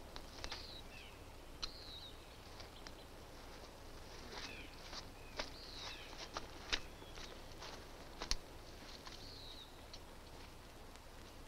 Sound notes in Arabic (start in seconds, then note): 4.9 تغريد الطيور البعيدة